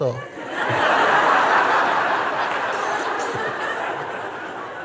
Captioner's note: laughter